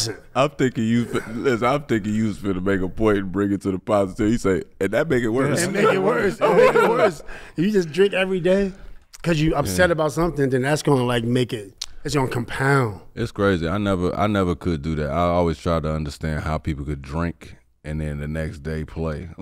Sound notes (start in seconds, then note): 5.4 laughs